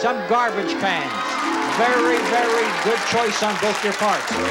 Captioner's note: applause; jeering band music